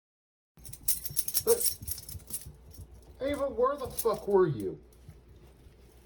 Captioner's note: barks